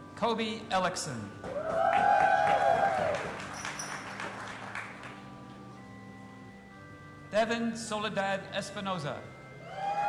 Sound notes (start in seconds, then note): 1.4 audience applauding and cheering